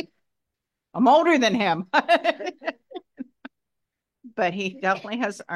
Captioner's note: laughs